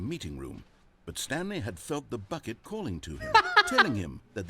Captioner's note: laughs